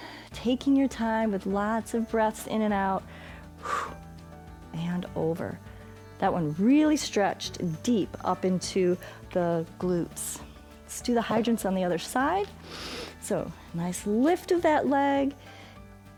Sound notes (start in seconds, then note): 3.6 short exhale; 12.6 inhales